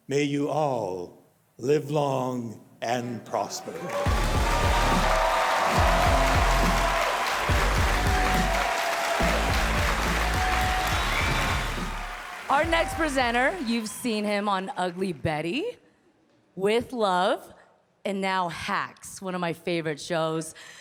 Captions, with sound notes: may you all live long and prosper. - (cheerful music) - (audience cheering) Our next presenter, you've seen him on "Ugly Betty", "With Love", and now "Hacks", one of my favorite shows.